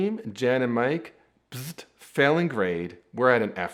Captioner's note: makes buzzer noise